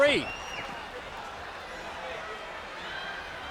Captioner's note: crowd yelling